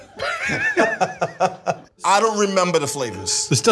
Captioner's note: Duff laughs